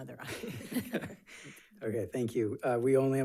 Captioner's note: board members laughing